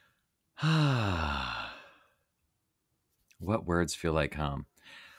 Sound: sighing heavily

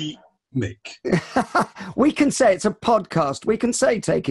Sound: laughs

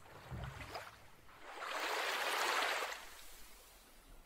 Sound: water splashing

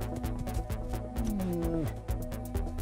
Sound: bear moans

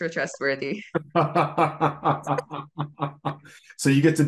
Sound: laughs

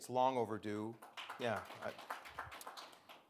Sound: audience clapping

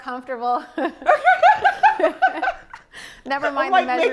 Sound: laughs

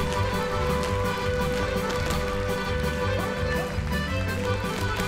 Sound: audience clapping

